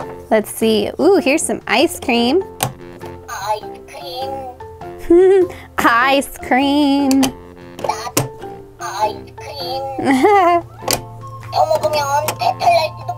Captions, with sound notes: Let's see. Here's some ice cream. (giggling) Ice cream!